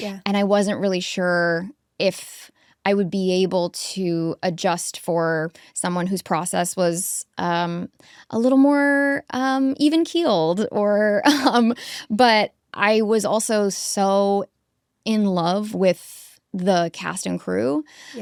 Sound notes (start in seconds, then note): 10.7 chuckles